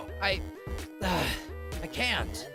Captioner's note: sigh